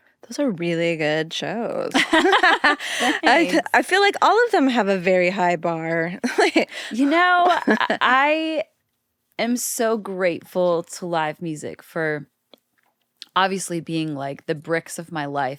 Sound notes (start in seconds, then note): 1.9 both laughing; 6.4 laughs